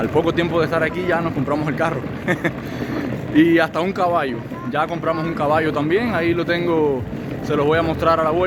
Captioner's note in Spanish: risas